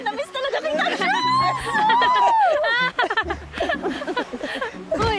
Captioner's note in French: chuckling